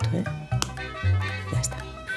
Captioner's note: click